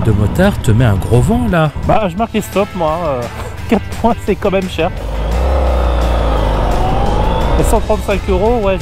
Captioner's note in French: rire